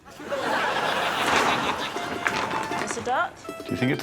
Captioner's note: audience laughing